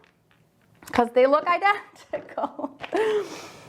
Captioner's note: laughs